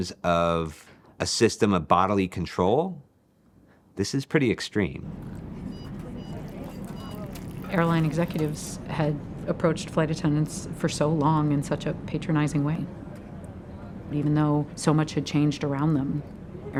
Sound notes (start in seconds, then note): 5.6 signal chimes